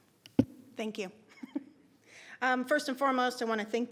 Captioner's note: laughs